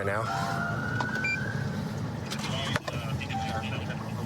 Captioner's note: police siren